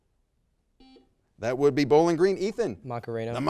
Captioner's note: buzzer beeps